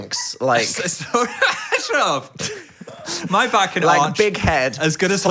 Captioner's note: laughs